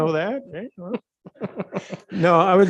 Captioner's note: laughs